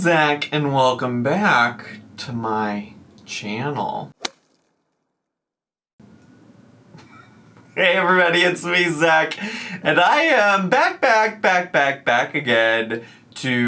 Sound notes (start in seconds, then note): 4.4 logo thuds